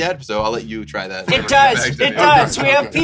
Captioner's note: laughing